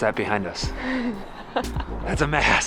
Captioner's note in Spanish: se ríe